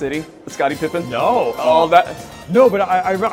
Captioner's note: laughs